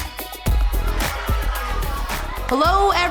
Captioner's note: campers excitedly chattering